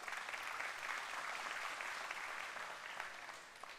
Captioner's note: applause